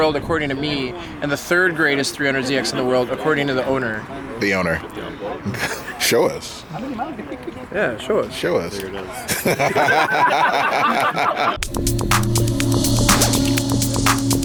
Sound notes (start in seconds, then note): 5.0 laughs; 9.1 laughs; 11.6 techno music